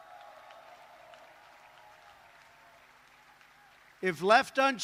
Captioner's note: applause